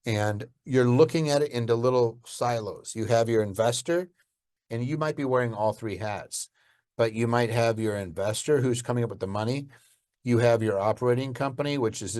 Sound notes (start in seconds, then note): none